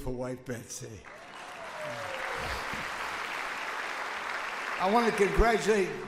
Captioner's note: audience applauds